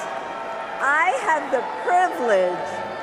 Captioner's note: cheers and applause